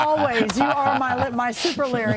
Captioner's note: laughter